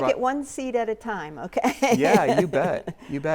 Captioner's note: chuckles